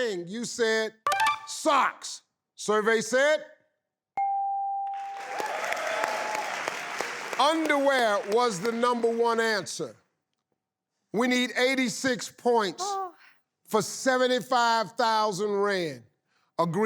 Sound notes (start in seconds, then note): 1.4 tinkling; 4.2 bell dinging; 4.9 audience applauding